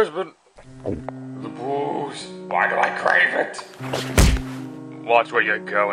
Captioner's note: gulp